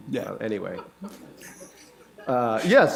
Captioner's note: laughter